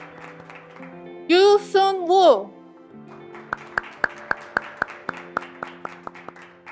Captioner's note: graduates clapping